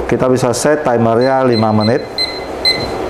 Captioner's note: timer sound